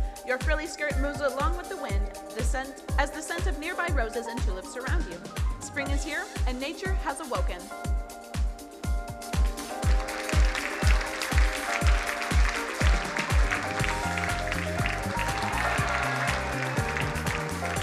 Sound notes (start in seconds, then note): 7.9 bright music; 9.4 crowd applauding